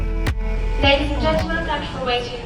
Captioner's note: PA system